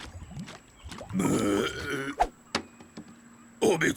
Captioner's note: owen belching